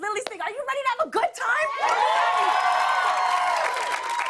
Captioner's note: cheers and applause